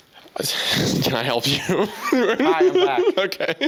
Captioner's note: laughing